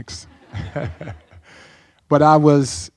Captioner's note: laughing